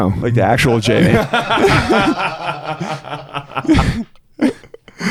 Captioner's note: laughing